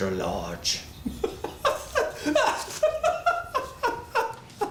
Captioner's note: laughs